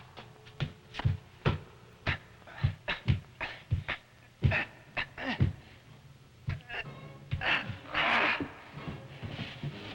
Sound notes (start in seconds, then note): 3.8 men straining